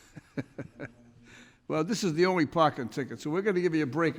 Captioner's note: laughs